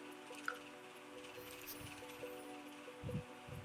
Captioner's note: sounds of a little glade